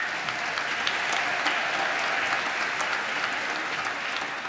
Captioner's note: applause